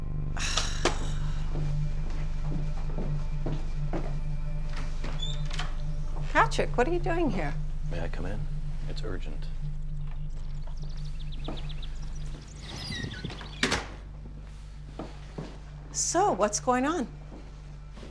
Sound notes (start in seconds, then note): 0.0 Kate sighs over tense electronic music; 4.7 door rattling; 10.0 birds chirping over tense electronic music; 12.6 door rattling